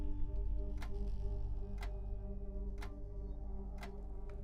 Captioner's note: clock continues ticking